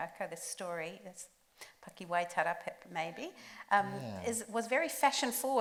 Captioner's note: speaks Māori